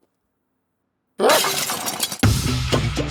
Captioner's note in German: Glas klirrt; Titelmelodie